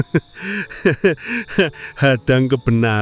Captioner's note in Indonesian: tertawa; terkesiap